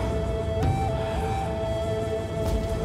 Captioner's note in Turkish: Nefes sesi